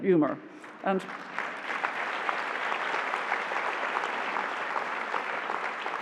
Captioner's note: applause